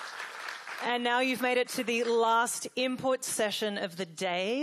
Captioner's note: applause